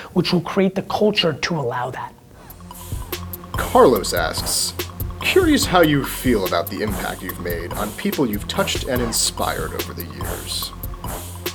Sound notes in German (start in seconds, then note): 3.9 Voice-over